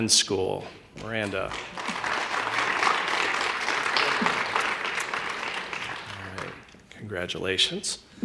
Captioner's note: applause